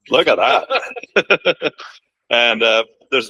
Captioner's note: laughter